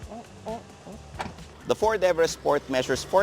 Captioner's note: door thuds